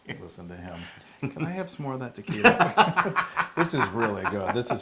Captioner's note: laugh